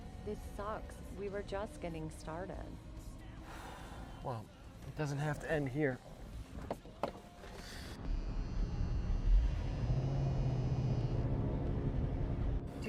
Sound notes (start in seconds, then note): 3.6 Wes sighs; 8.0 eerie music; 8.0 car engine starting